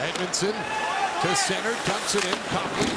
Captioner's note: cheering